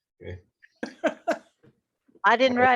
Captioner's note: laughter